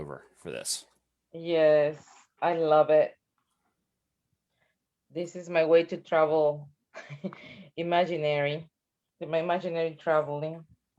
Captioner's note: chuckles